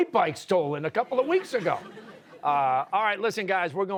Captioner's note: audience laughing